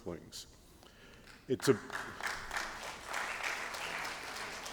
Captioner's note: applause